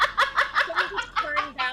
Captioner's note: laughs